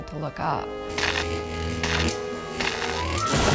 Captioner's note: electricity buzzing; boat explodes